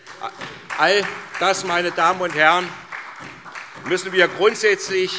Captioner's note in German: Beifall SPD